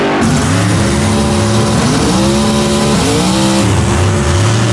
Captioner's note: throttle rumbles and wails; engine purring and growling